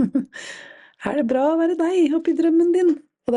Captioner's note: laughs